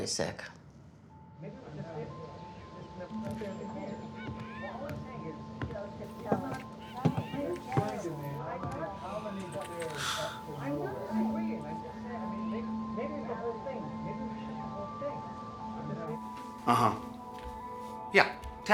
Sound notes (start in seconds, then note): 5.1 pensive music; 8.9 sighs